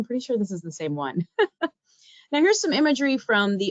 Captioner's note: laughing